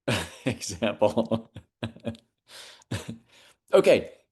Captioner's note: laughs